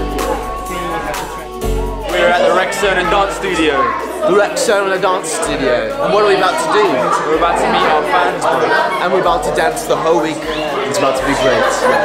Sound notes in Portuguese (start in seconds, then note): 5.1 imitando o sotaque do Bailey